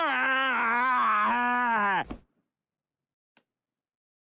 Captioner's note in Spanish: persona gritando